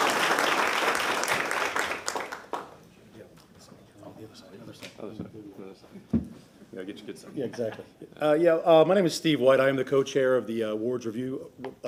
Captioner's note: applause